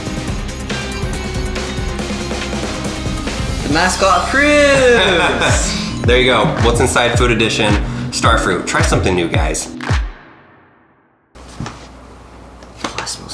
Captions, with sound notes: - Mascot cruise. - (Laughs) There you go. What's Inside, food edition. Starfruit. Try something new, guys.